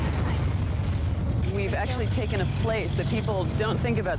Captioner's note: voiceover